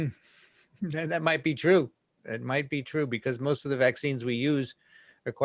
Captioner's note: chuckles